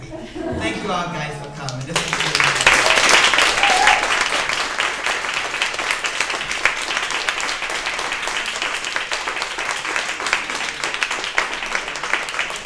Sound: loud applause

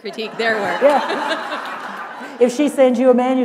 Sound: laughter

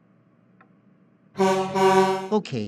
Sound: truck horn

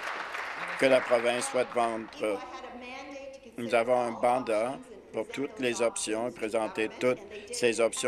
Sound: applause

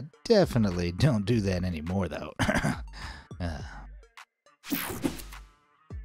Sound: clears throat

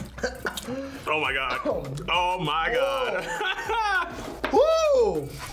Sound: laughs

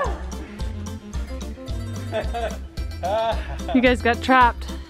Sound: laughter

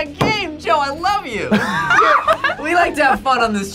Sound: laughs

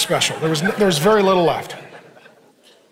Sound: congregation laughing

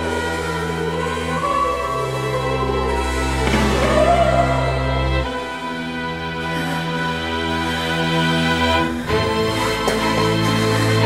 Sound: she coughs again

